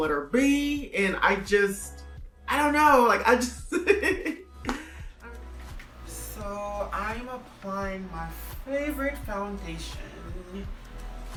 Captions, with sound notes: with the letter B and I just, I don't know! I just... (laughing) So, I am applying my favorite foundation